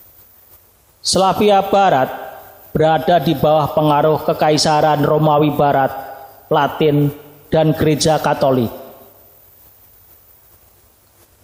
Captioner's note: Latin